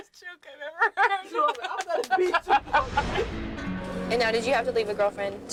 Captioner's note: laughs